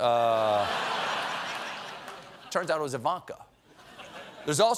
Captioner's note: laughter